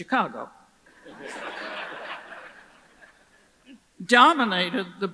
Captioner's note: audience laughs